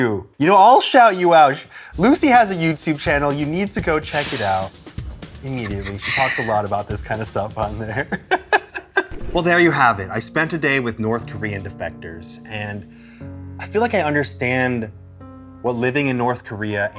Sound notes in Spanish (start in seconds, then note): 7.8 risas